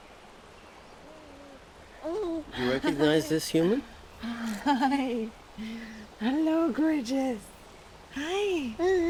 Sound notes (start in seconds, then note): 4.0 soft baby cooing